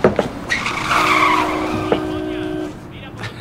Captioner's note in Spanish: Cláxones de coches